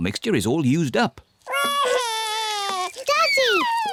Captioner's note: wails